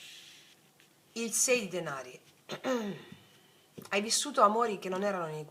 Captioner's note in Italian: schiarire la voce